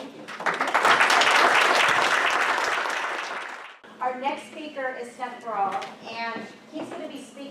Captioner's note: applause